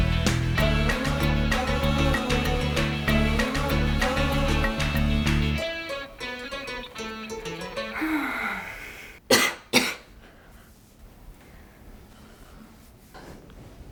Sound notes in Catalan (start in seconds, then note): 7.8 Lisa suspira amb força; 9.2 Lisa tosseix